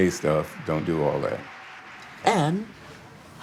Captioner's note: audience applauding